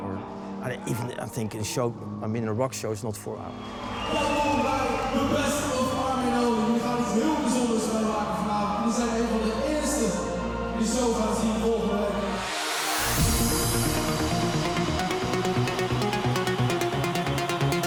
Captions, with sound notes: or not even a rock show is not for it. (speaking in foreign language) (upbeat techno music)